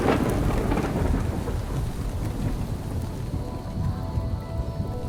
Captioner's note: thunder crashing; gentle orchestral music